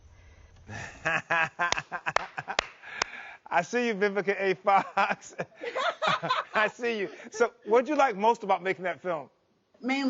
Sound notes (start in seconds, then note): 0.7 laughs; 5.6 Vivica laughs